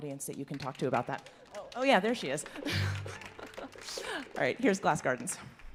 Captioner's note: applause